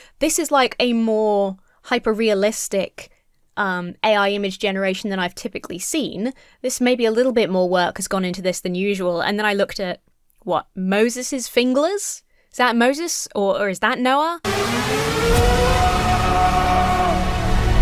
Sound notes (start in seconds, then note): 14.4 dramatic music; 15.5 man screams